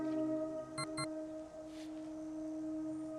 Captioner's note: beep, beep